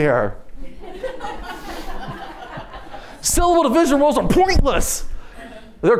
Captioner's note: laughter